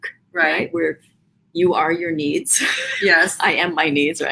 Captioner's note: laughs